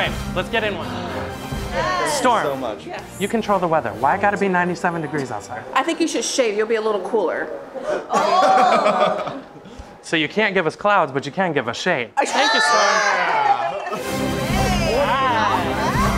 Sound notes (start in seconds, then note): 8.0 laughs; 13.1 all laugh; 13.8 dramatic music